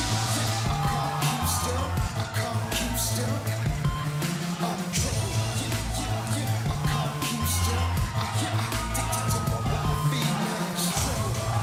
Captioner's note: crowd cheering